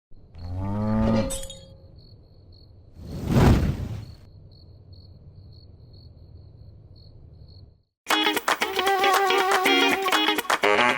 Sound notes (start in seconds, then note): 0.4 cow mooing; 0.8 glass shattering; 8.0 funky music